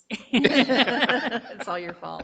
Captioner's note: group laughing